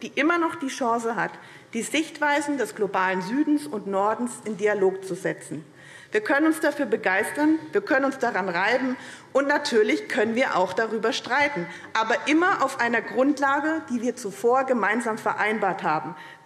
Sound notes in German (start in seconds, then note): none